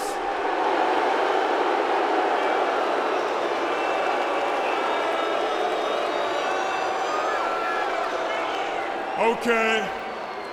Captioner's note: crowd cheering